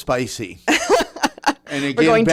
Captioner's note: laughing